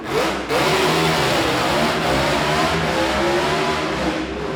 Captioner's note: car accelerating